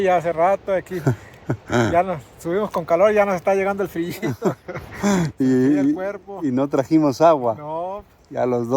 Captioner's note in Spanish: carraspeo